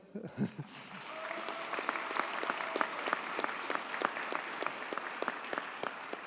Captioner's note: audience cheers and applauds